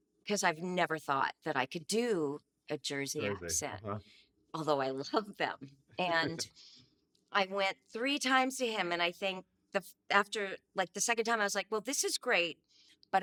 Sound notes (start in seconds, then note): 6.1 laughing